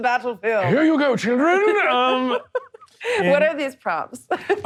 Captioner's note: laughing